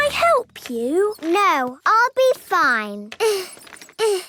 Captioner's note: grunting; grunting